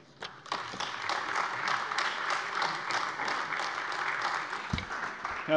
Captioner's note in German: Beifall AfD